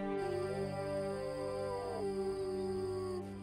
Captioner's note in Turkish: Kurt uluma sesi